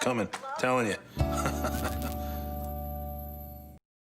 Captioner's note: laughs